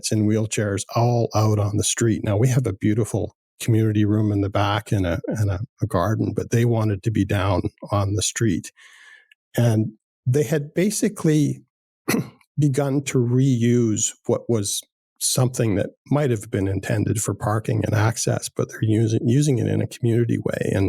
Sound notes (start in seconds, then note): 12.0 clears throat